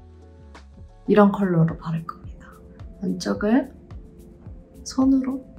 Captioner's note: speaking in Korean